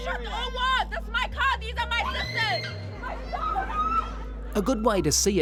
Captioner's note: screams